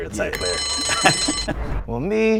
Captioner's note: laughs; bell rings